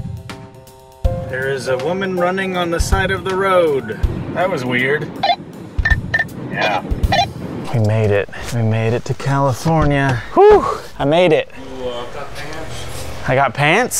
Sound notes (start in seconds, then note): 5.1 walkie squawks; 10.2 exclamation of relief